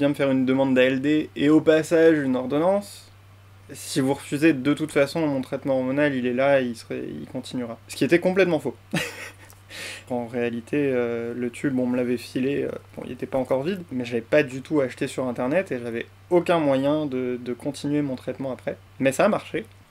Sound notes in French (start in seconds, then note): 8.9 rires